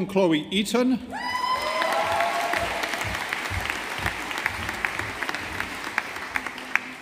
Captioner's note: audience applauding